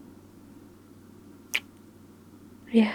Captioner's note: kiss